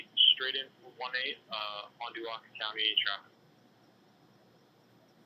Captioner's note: radio